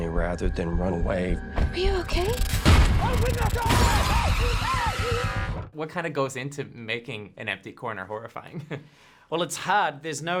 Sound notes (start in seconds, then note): 1.0 suspenseful drop; 2.4 glass breaking; 3.4 wailing